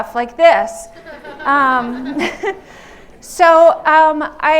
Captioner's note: laughter